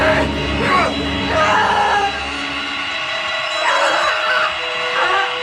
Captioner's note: Billy heavily breathing and groaning